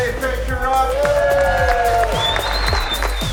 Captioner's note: cheering